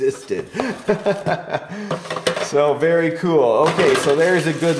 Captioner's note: laughs